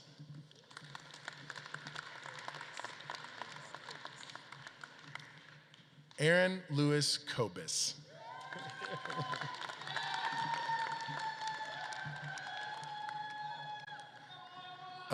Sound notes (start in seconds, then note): 0.0 audience claps; 8.0 audience claps and cheers